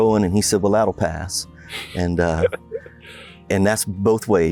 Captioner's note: laughter